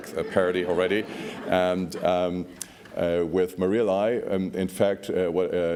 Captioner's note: laughs